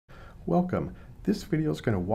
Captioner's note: voiceover